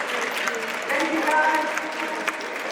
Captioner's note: audience applauds